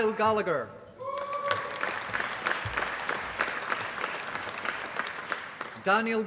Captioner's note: applause